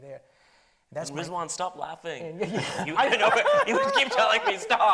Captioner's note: laughs